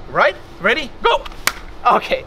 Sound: claps

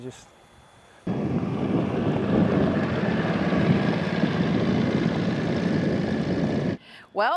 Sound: engine sound

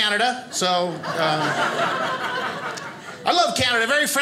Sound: audience laughing

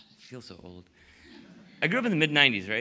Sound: laughter

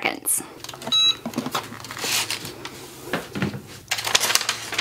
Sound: press beeps

